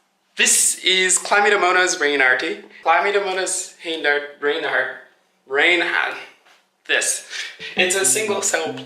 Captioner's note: trouble saying Chlamydomonas reinhardtii